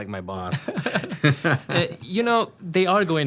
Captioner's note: both laugh